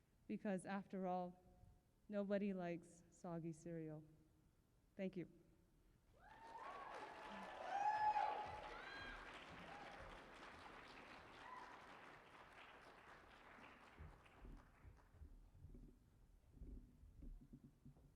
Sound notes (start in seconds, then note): 6.2 cheering and applause